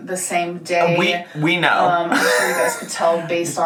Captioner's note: laughs